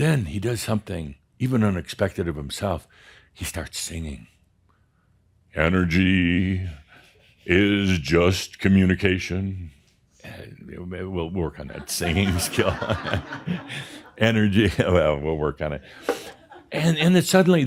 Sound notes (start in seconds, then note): 11.6 laughter; 16.0 a few more chuckles